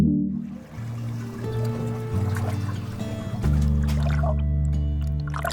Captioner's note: water splashing